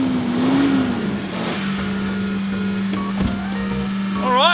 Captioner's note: engine revs, idles